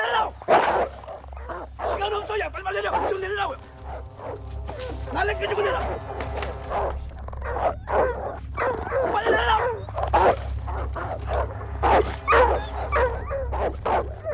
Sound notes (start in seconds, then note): 0.1 snarling; 3.9 speaking Korean; 6.2 barking, Snarling; 8.6 yelling; 11.3 barking, Snapping